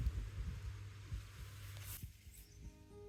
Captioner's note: sounds of grass rustling, wind, and puppies occasionally whining begins; background music begins